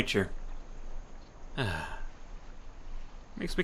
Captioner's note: sigh